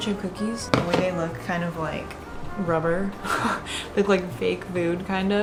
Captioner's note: laughs